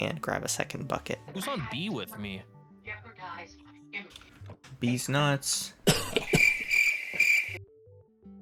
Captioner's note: cough, crickets